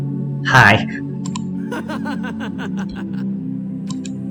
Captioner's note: laughter